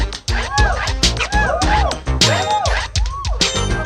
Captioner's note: women cheering